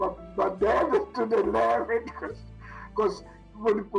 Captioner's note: laughs